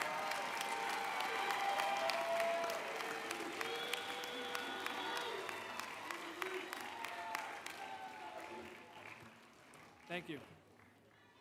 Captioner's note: applause